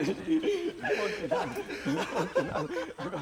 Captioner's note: laughter